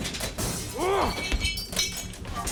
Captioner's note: glass shatters; fighting; groaning